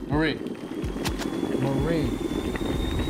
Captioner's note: tea kettle whistles; whistling gets louder